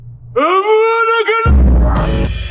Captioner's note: Voldemort yelling; upbeat electronic music